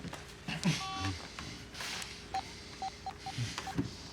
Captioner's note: phone beeping